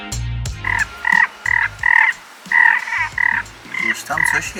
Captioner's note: frog noises